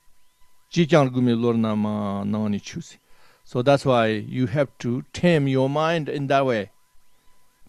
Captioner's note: tibetan